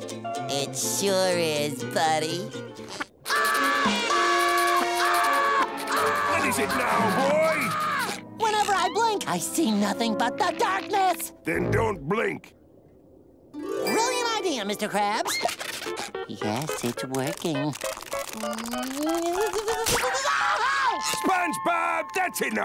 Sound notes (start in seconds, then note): 3.2 screaming; 19.9 screaming